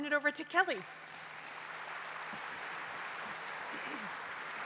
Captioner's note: applause